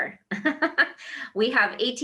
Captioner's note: laughs